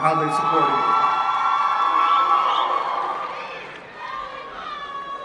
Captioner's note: cheering